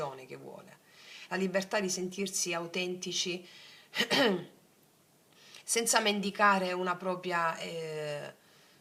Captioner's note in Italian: schiarire la voce